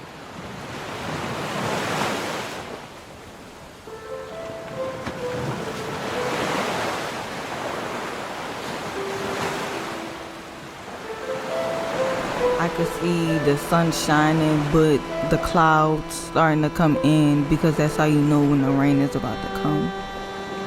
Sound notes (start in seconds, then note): 0.7 water splashing; 3.8 gentle music; 3.9 water splashing